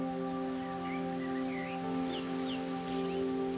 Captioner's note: birds chirping